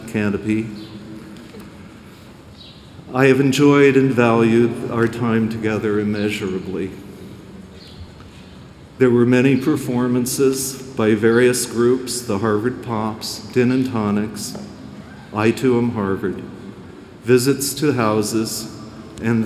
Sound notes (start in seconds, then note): none